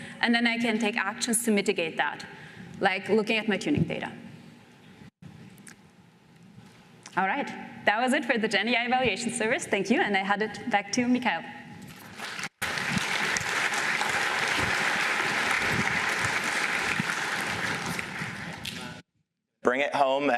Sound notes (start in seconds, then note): 11.9 applause